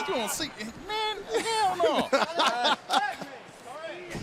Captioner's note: laughter